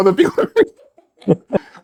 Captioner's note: laughing